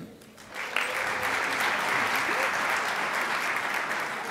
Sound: crowd applauds

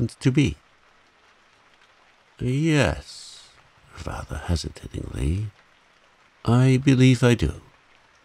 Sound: rather hesitatingly

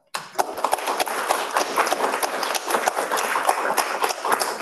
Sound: audience clapping

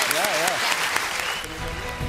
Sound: applause

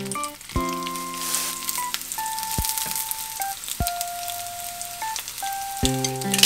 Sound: sizzle

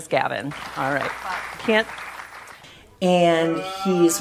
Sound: audience clapping

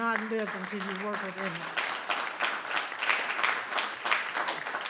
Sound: audience clapping

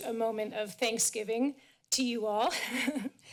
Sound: chuckles

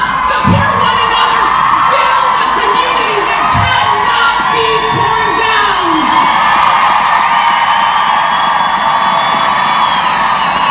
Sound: applause

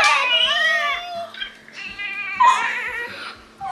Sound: baby crying

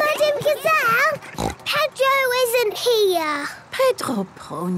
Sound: snort

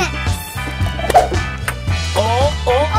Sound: upbeat music; ball whooshing

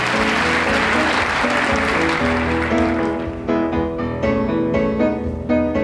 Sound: audience clapping

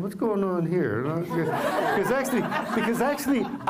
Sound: laughter

